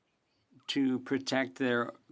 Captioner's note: speaking French